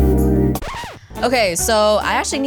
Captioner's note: needle sliding on record